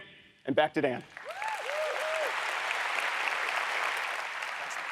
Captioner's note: audience applauds